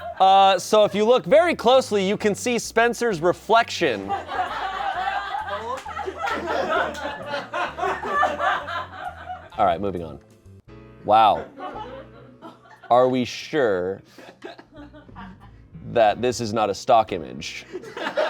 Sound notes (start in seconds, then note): 0.0 audience laughing; 4.0 audience laughing